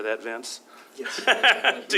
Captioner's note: laughter